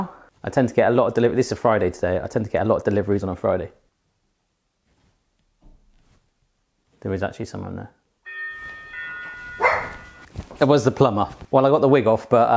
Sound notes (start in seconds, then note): 8.2 doorbell rings; 9.5 dog barks